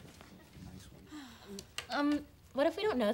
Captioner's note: student sighs